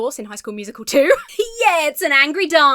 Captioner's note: laughs